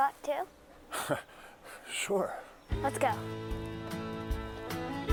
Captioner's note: chuckles; feel-good Americana music